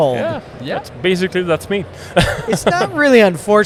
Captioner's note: laughs